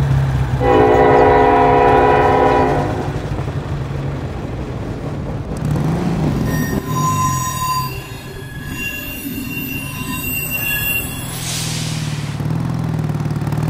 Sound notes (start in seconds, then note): 0.6 louder train horn; 5.7 train wheels screeching